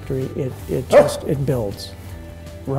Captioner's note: dog barks